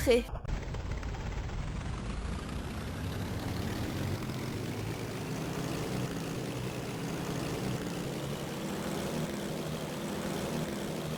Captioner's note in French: bruit de moteur qui crachote